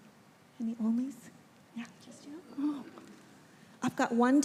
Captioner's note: speaking faintly